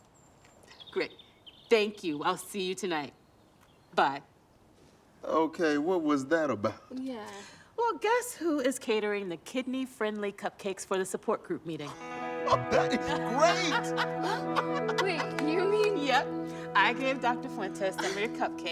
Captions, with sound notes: Great, thank you. I'll see you tonight. Bye. - Okay, what was that about? - Yeah. - Well, guess who is catering the kidney-friendly cupcakes for the support group meeting? - (laughs) That is great! - Wait, you mean- - Yep. I gave Dr. Fuentes some of your cupcakes